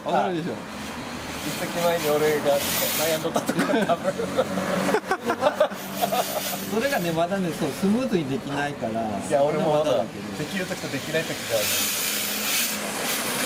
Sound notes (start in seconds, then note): 4.8 laughs